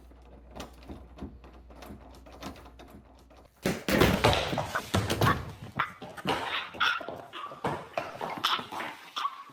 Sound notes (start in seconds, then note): 4.1 can clattering; 6.5 someone choking